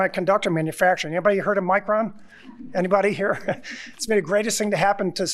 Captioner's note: chuckling